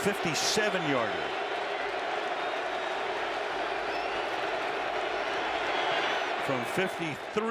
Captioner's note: crowd cheering